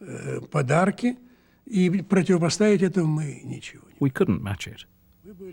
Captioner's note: speaking russian